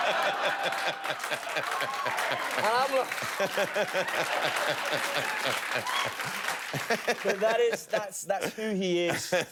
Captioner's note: laughter; cheers and applause